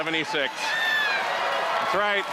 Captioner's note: cheering